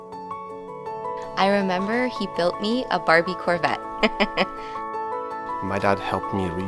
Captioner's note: laughs